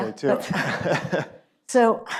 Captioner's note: laughs